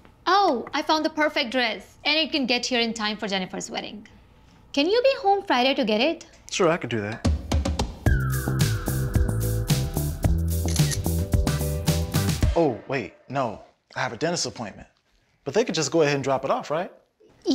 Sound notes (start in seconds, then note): 7.2 upbeat rhythmic music; 8.0 camera clicking